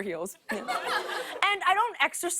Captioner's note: laughter